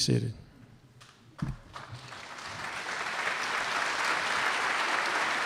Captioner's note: applause